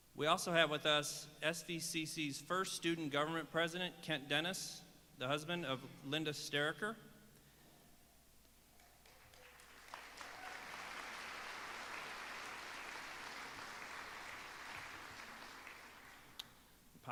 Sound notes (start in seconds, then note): 8.8 applause